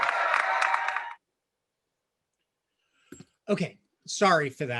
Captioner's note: audience cheering